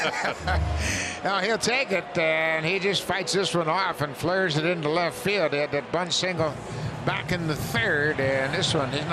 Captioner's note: cheering and Applause